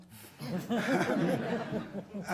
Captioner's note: audience laughing